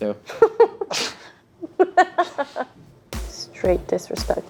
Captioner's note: giggles